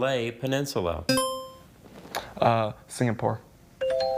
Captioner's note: buzzer chimes; tone chimes